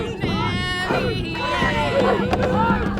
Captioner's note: shouting